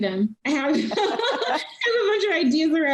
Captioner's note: laughing